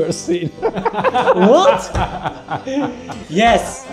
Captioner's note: group laughs